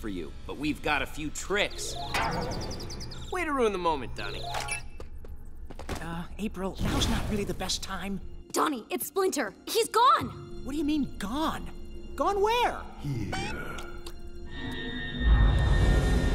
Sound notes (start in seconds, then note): 4.3 chiming